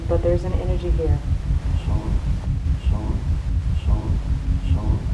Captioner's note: disembodied Voice